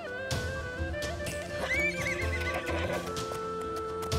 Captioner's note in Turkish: At kişneme sesi